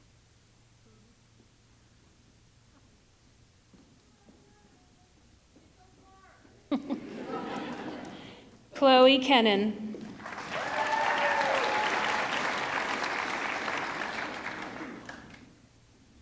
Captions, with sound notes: Chloe Kuennen, (audience clapping) (audience cheering)